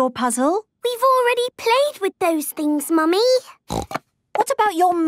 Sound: snorting

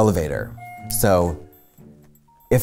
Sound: elevator bell dings

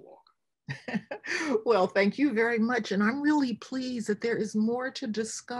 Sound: laughs

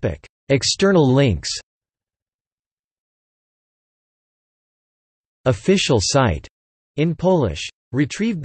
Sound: in Polish

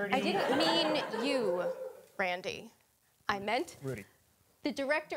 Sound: audience laughing

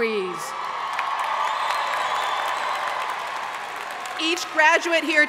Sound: audience cheering and applauding

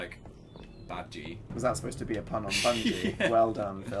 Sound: laughs

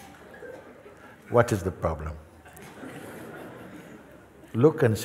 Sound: laughter

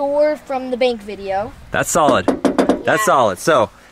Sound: knocking

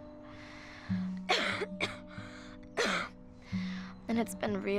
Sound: loud coughing

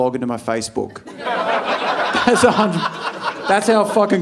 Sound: audience laughing

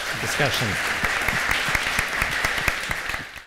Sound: applause

